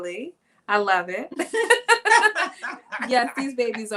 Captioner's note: laughing